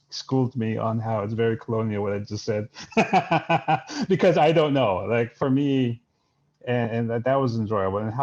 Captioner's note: laughs